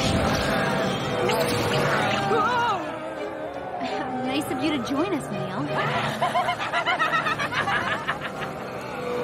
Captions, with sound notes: (Yelling) Nice of you to join us, Neil. (Laughing)